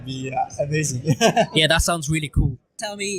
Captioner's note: laugh